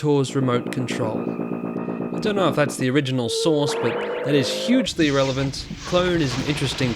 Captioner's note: wibwibwib